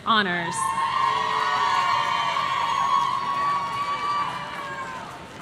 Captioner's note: audience cheering